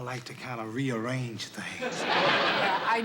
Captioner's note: laughter